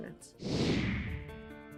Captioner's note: mellow music; computer whooshing